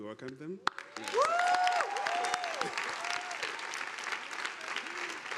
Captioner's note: audience applauding